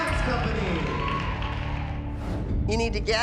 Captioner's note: crowd cheering